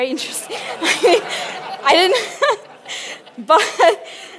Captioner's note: audience laughs